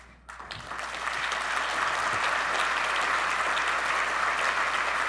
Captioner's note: audience clapping